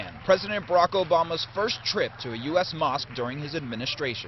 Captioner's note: applause